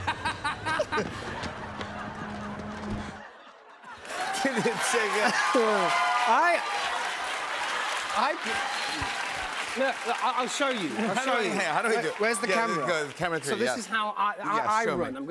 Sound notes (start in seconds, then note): 0.0 laughs; 4.0 cheers and applause